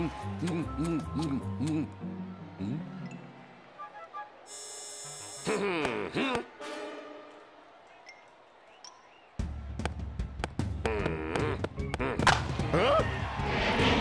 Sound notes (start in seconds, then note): 10.6 grunting